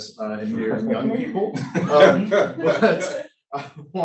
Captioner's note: laughter